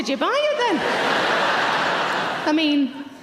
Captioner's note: audience laughing